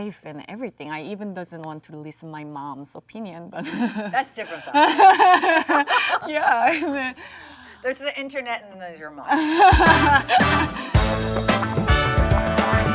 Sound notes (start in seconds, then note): 4.4 Jung laughs; 6.8 Sandra laughs; 11.4 Jung laughs